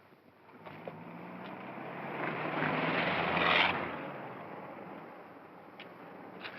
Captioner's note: car rumbles past